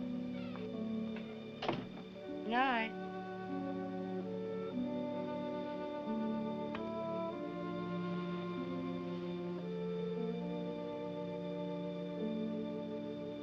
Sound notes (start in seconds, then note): 1.6 door closes